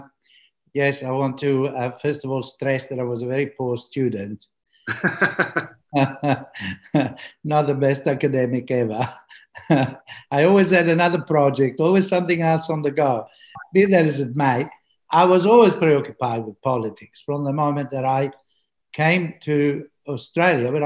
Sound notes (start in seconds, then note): 4.8 laughs